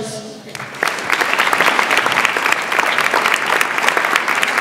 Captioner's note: audience applauds